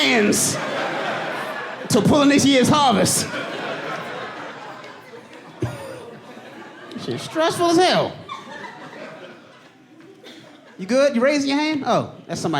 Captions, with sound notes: to pull in this year's harvest. [CHUCKLES] That shit is stressful as hell. You good? You raisin' your hand? Oh, that's somebody behind you. I thought she had a question. "Excuse me, sir...